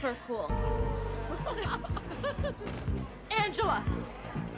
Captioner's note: group laughing